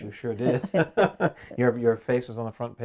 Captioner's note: laughing